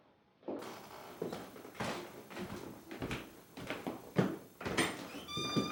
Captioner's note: footsteps